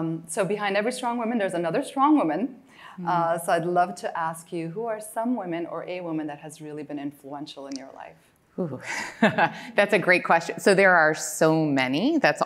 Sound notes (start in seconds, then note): 9.1 laughs